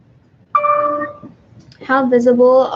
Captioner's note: computer dings